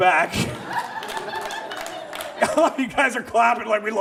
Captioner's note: audience laughs